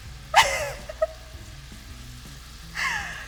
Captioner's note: laughs